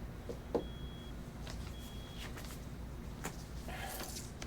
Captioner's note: hand knocking